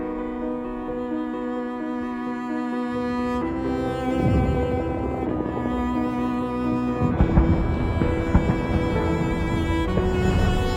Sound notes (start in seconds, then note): 6.9 explosions pounding